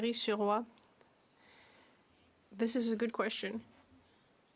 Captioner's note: speaking French